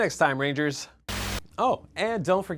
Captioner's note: camera Static